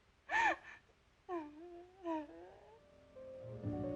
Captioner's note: crying Continues